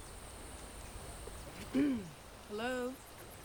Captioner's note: woman Clears Throat